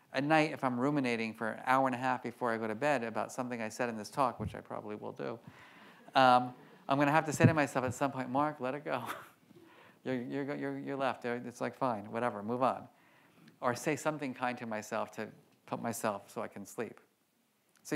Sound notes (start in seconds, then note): 9.8 laughs